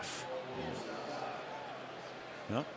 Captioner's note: pa announcement